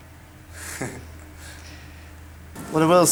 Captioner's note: chuckles